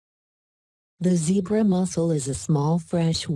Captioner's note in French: Voix automatisée